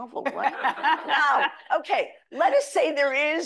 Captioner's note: audience laughing